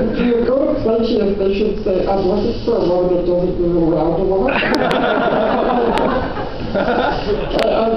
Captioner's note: laughter